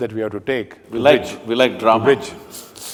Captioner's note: laughs